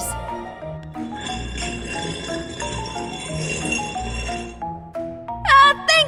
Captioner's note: stone sliding